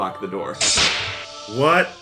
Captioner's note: hissing door sound